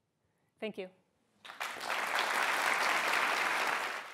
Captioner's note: applause